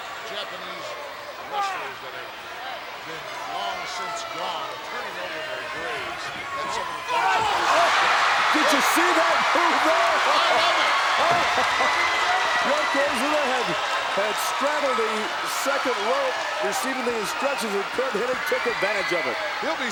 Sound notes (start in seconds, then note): 7.7 commentators exclaim; 7.7 crowd cheers